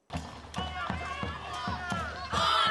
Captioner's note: crowd chanting